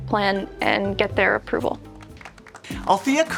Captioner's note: crowd lightly clapping